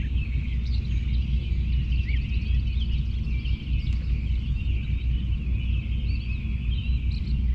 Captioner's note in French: Sons ambiants des oiseaux au levé du jour